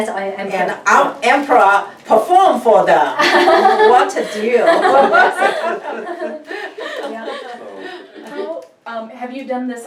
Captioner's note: group laughs